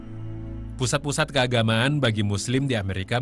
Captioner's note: non-english speech